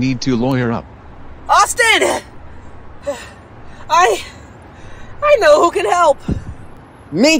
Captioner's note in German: Atemzüge für Luft